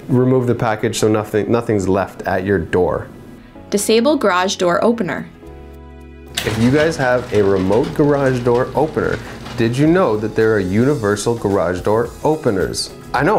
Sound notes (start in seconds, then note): 6.3 garage door opening